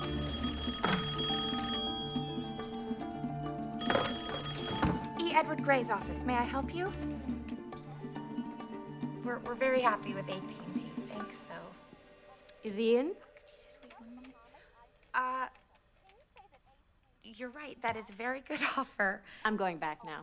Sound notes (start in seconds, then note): 0.2 rings; 14.1 whispering